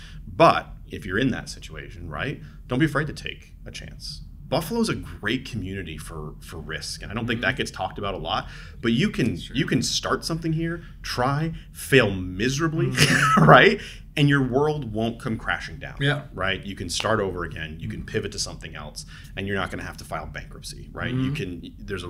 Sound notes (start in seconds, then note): 12.7 laughs; 16.9 claps